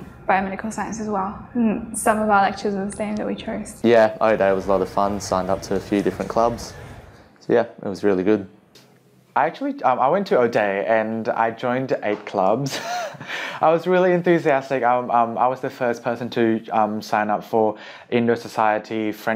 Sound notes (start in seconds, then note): 12.7 laughs